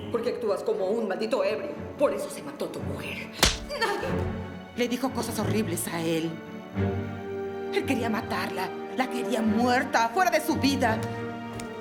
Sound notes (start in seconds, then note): 3.4 slap